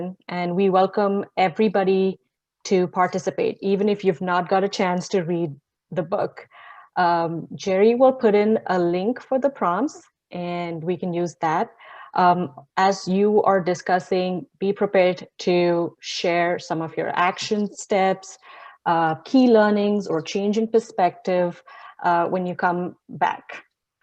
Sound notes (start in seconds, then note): none